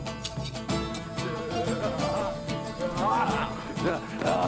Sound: Gülme sesleri

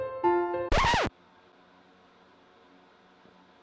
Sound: record scratch and end of music

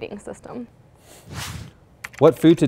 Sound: air whooshing; keyboard clicking

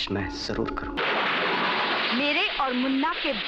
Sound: thunder crashing

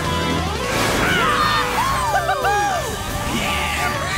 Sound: cheering

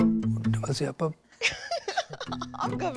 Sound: laughing

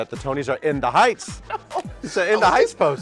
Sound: laughing

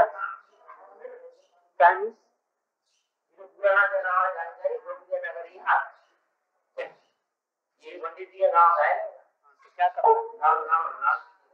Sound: Hindi

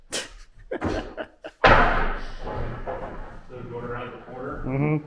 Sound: laughs

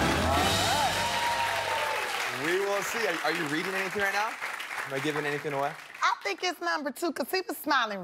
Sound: cheers and applause

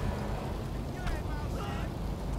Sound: door slam

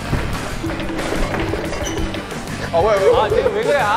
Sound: thudding sounds from the back

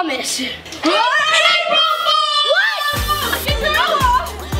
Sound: both shouting

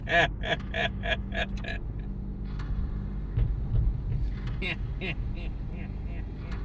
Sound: laughing

